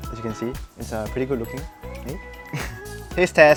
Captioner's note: laughs